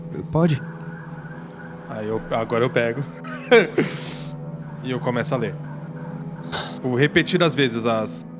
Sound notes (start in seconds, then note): 2.1 laughs